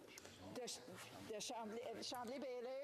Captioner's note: speaking French